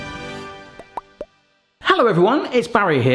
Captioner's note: triumphant music; bubbles popping